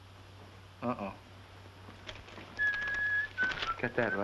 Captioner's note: whistling